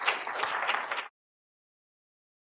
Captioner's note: applause